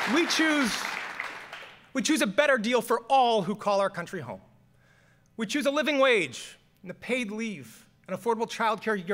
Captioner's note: applause